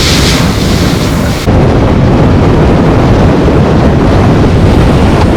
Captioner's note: storm, heavy rain & hurricane sounds from the ocean